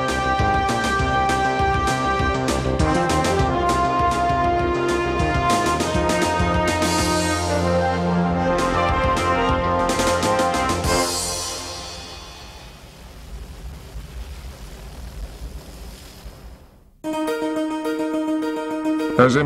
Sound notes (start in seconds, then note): 12.8 helicopter blades whirring; 17.0 upbeat music